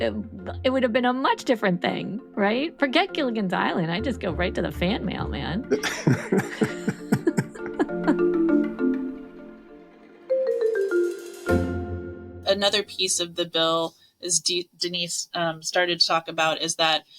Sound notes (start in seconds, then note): 5.7 laughing; 8.7 bright music